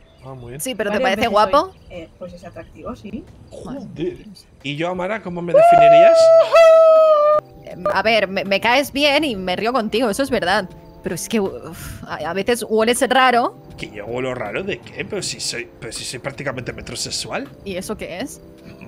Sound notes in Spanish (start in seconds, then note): 7.0 grita